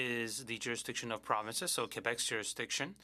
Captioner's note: speaking French